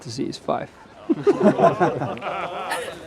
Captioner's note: men laugh